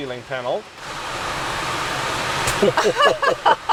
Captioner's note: rain whooshing; laughing